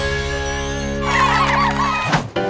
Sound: crowd cheering

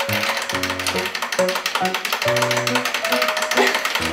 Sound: timer ticking

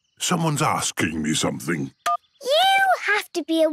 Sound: phone beeps

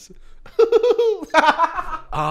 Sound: hoots; laughs

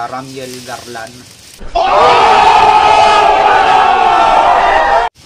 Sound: crowd Shouting

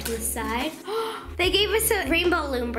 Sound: gasping

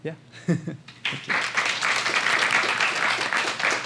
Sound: applause

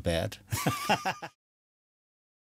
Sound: laughter

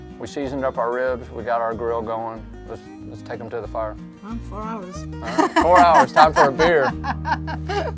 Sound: laughing

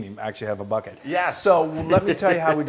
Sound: laugh

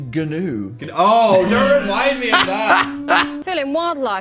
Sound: Dan laughing

